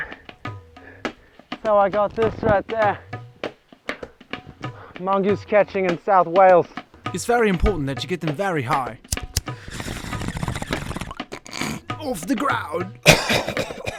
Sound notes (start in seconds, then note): 9.3 bong rip; 12.9 coughing